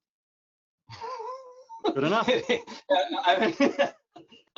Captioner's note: all laughing